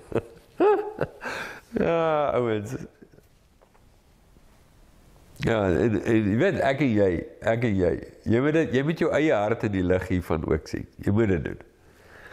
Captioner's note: laugh